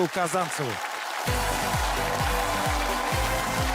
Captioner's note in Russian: аплодисменты